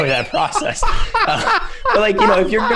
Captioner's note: laughter